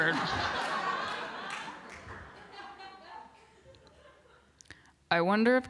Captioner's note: laughter